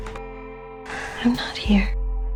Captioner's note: voiceover